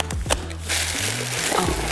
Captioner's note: plastic crunching